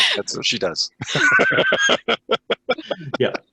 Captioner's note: laughing